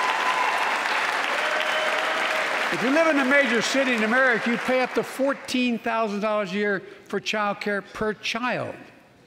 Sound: applause

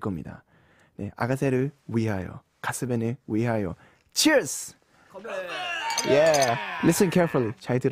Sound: sound effect: Cheers!

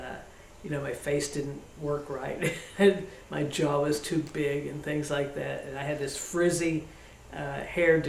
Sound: laughs

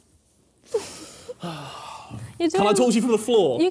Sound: sighing

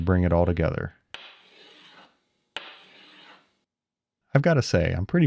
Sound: metal whirring

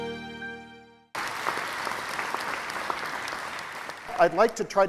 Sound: applause

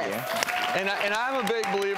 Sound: crowd cheering

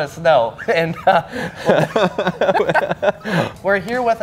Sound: laughing

